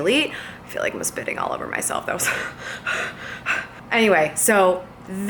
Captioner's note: panting